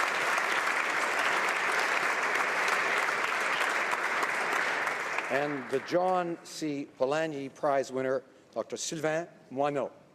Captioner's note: applause